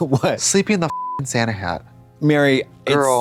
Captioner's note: beep